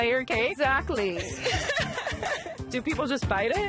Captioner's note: both laugh